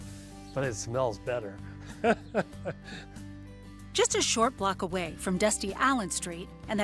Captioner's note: laughs